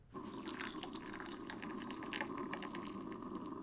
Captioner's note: coffee drips